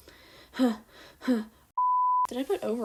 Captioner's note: exhale